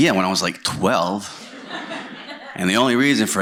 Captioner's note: laughter